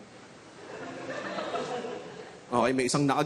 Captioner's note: scattered laughter